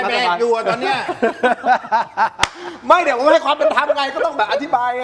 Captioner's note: laughs